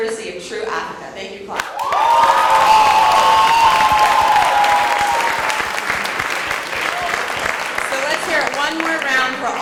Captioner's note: cheers and Applause